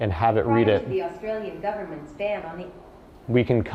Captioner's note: automated Voice